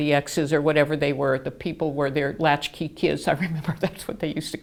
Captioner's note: laughing